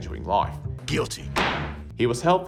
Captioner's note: bang